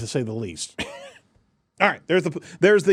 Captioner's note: laughs